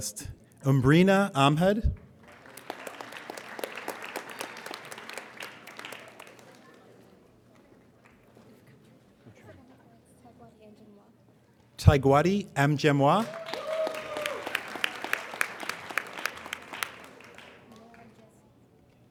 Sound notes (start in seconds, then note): 2.0 applauding; 12.8 applauding